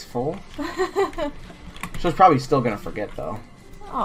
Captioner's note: laughs